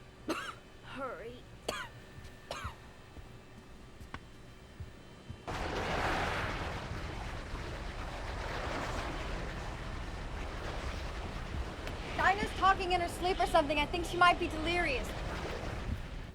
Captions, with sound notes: [ Coughs ] HURRY. [ Churning Sound, Louder ] DINAH'S TALKING IN HER SLEEP. I THINK SHE MIGHT BE DELIRIOUS.